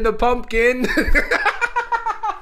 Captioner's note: laughs